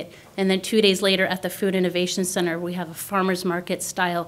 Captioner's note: none